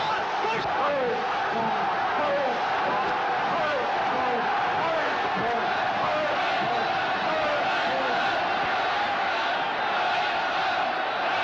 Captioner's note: non-english speech